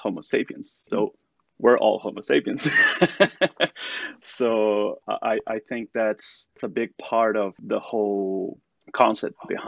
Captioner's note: laughter